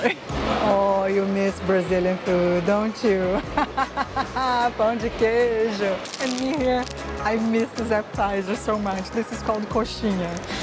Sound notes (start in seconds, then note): 3.5 laughs; 5.4 in Portuguese